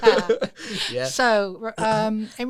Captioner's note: laughter